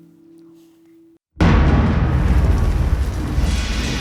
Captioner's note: sounds of thunder and rain